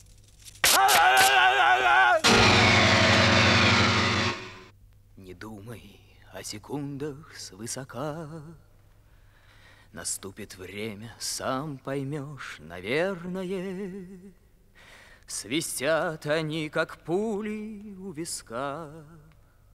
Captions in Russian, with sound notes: А-а-а! (напевает) Не думай о секундах свысока… …наступит время, сам поймёшь, наверное… …свистят они как пули у виска…